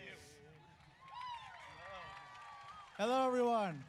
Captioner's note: audience cheers